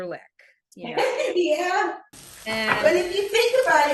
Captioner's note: laughs